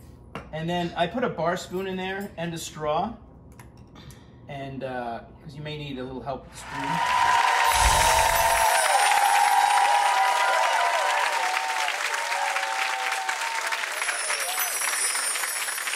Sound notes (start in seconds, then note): 6.6 crowd cheers and applauds